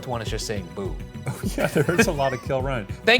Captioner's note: laughs